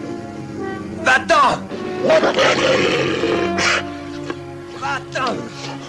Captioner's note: growling